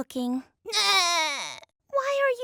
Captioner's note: crying